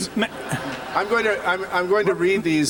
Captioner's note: laughter